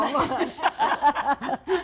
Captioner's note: laughter